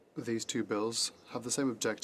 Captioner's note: speaking French